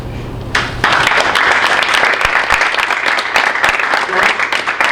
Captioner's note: audience applauding